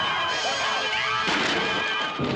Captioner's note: tires screeching